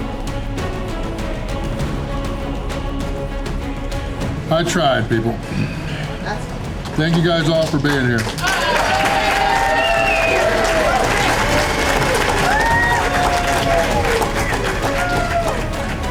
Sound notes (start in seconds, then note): 11.1 crowd applause and cheering